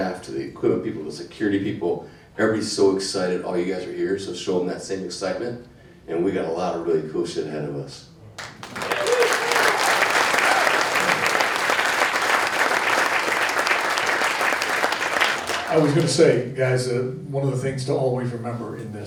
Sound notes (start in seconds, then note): 8.4 crowd clapping